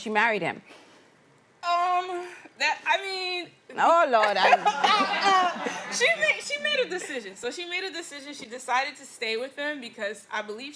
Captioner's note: laughter